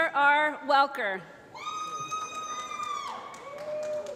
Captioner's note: applause